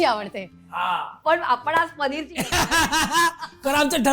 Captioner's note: laughter